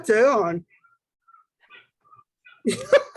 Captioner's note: chuckles